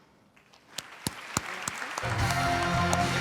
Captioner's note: applause; celebratory music